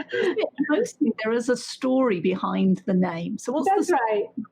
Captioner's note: laughs